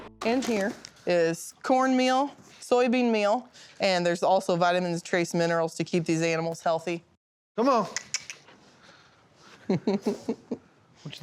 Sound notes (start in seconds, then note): 7.9 clicks tongue; 9.6 laughing